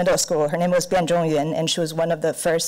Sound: foreign language

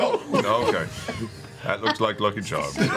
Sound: barfs

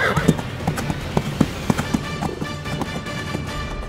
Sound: horse neighing; horse running

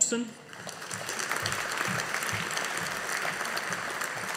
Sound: audience applauding

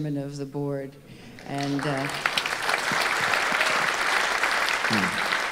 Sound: audience applauding

